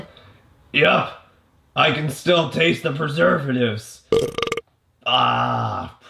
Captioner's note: burps